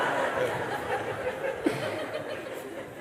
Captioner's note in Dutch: gelach